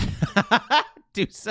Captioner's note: laughing